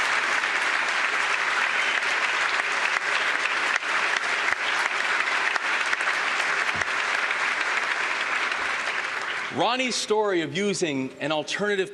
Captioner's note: applause